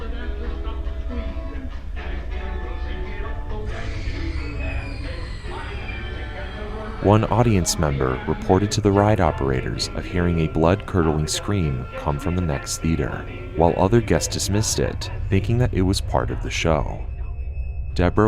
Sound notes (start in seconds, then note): 5.8 screaming